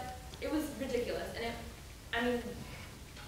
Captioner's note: woman's Voice